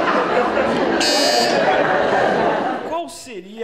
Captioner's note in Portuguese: campainha